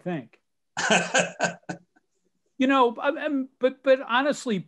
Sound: laughing

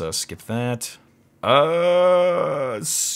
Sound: groans indecisively

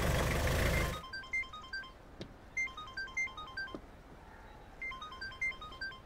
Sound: cell phone rings

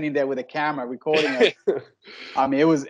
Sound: laughing

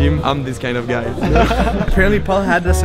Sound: laughing in background

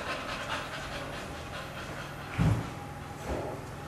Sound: dog pants offscreen

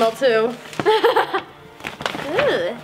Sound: laughing

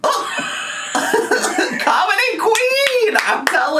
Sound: chortles; laughs; clapping

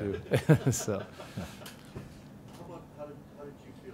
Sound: laughter

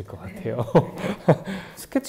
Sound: haha

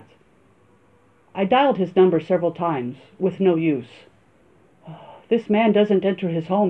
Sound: sigh

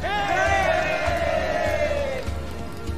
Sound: crowd cheers

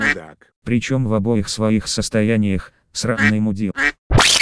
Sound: quack

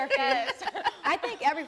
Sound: all laughing

